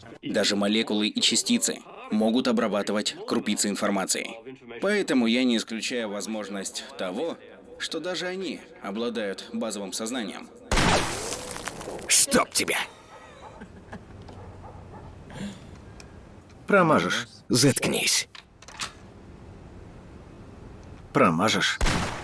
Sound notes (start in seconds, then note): 10.7 gunshot; 18.4 gun cocking; 21.8 gunshot